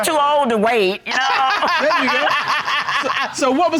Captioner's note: Judge Dana laughs